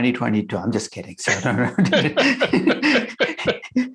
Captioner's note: laughs